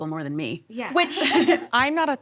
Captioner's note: all laugh